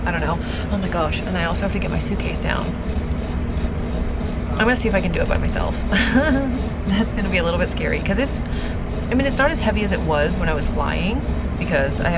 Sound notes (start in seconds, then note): 5.8 laughing